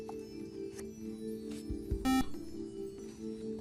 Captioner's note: beep